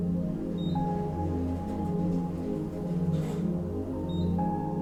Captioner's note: pensive music; elevator beeps